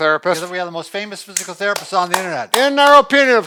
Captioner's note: claps